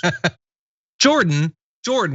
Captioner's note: laugh